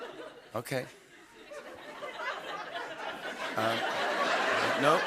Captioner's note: laughter